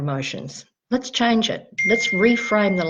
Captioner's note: phone dinging